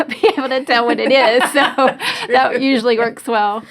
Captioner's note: laughing